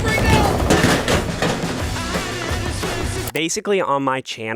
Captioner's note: trash bin clattering; upbeat music